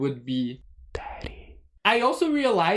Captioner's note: whispering